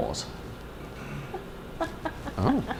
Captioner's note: laughter